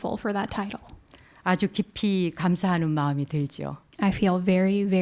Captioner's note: speaking in Korean